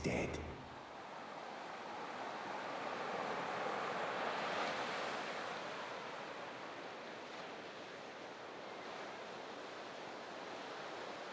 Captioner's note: waves crashing